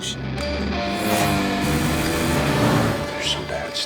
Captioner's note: engine roaring